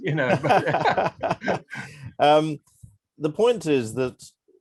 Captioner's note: laughing